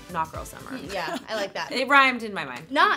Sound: laughing

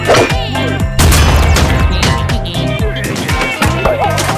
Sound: explosion

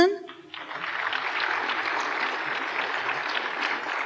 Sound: applause

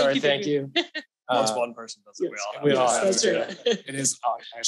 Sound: overlapping chatter

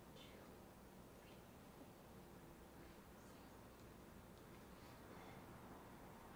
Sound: whispering

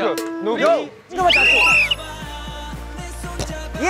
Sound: the whistle blows

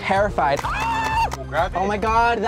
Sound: screaming

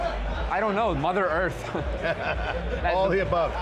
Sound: laughs

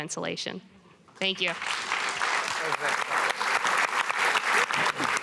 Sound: applause

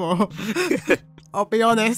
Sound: both laughing

